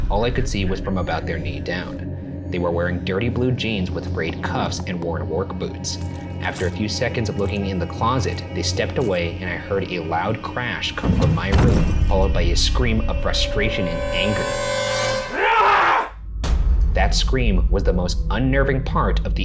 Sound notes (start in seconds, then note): 15.0 scream